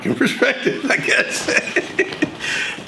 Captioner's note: laughs